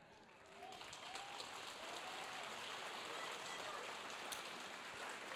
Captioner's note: audience cheering